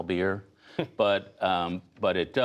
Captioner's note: laughter